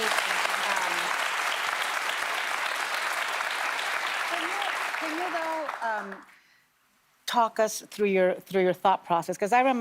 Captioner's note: applause